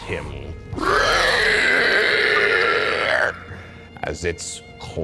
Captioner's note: undead screaming